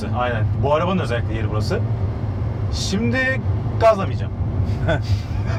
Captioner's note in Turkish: Gülüş sesleri